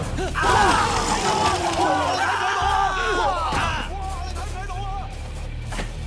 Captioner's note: thugs clamor; thug yelps